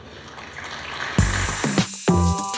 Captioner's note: applause